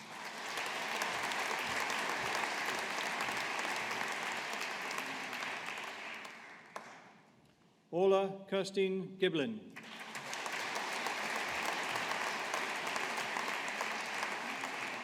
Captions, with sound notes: (AUDIENCE APPLAUDING) Orla Kirsteen Giblin. (AUDIENCE APPLAUDING)